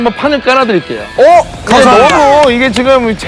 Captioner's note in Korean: 물개 박수